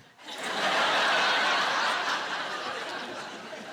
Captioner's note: laughter